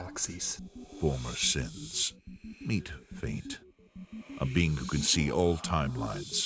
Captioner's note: quiet but authoritative